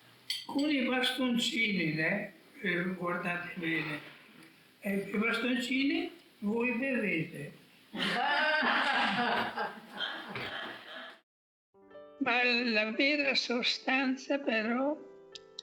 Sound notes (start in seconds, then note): 7.9 laughter